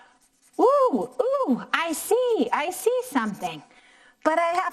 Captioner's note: none